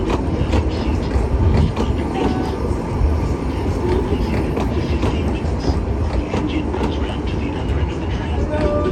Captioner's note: train chugging